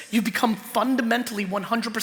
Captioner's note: none